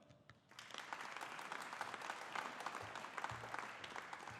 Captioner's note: audience applauding